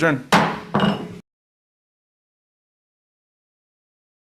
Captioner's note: chair hitting gavel